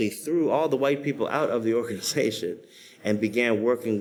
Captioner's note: laughs